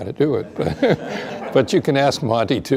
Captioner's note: laughter